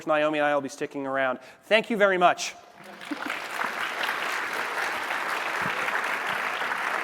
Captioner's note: applause